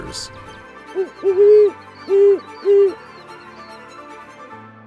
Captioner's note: owl hooting